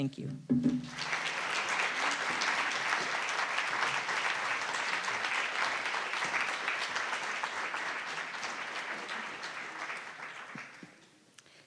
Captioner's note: applause